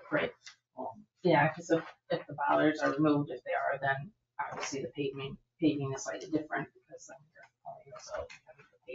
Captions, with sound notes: Right, well, yeah, because if the bollards are removed, if they are, then obviously the paving is slightly different because then (speaks faintly).